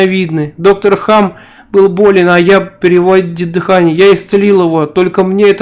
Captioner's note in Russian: переводит дыхание